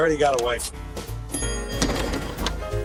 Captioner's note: elevator dings